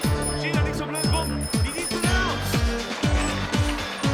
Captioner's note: speaking german